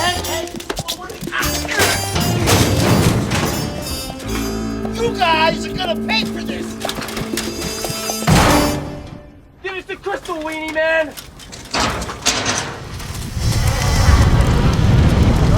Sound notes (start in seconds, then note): 2.2 groans